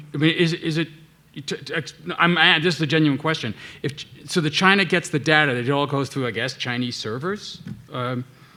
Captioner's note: none